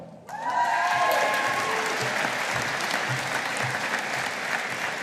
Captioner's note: audience applauding